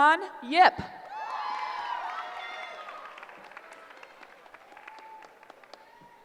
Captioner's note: cheering